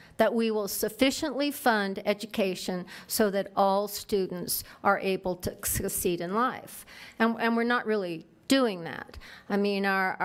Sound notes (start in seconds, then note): none